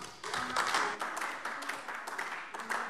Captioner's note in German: Beifall AfD